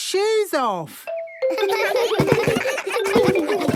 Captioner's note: giggles